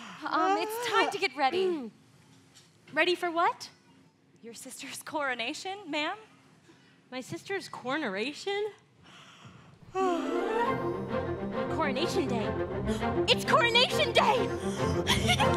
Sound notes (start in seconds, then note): 9.9 Anna yawns; 15.0 Anna laughs